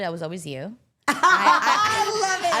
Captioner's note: everyone laughs